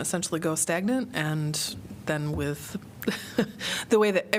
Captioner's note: laughter